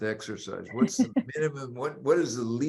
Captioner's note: laughing